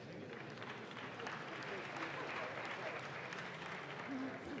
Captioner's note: audience claps